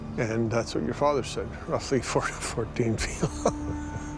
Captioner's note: laughing